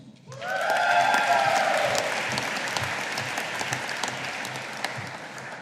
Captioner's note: audience applauding